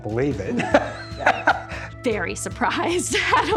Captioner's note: laughs